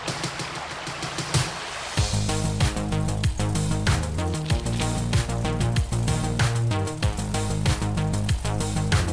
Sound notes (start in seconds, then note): 0.0 water burbling; 0.7 birds chirping; 5.7 upbeat, pop music